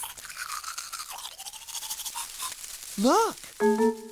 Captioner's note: rustling of grass